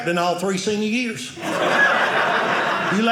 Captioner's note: audience laughing